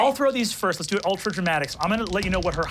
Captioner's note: dice clanking